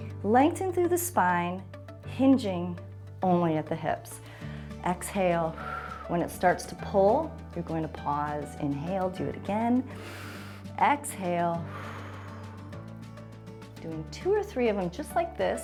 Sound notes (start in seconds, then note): 5.5 exhales; 9.8 exhales; 9.9 inhales